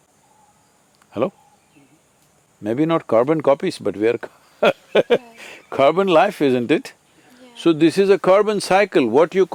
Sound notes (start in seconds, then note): 4.6 laughs